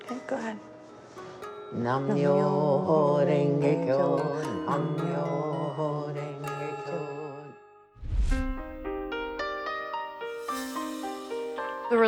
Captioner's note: chanting in foreign language